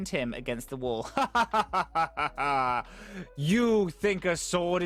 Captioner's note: evil laughter